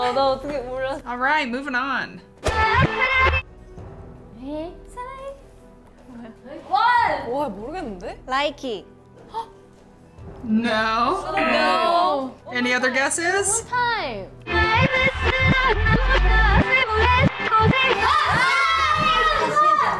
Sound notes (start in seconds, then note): 9.2 gasps